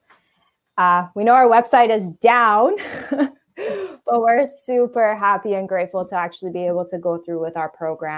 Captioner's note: chuckle